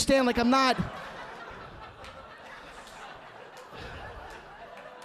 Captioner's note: audience laughing